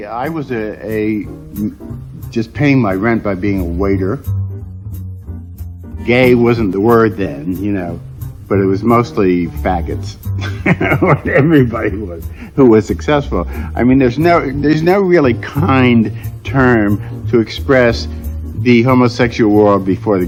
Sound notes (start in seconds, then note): 4.5 jazzy music; 10.4 laughs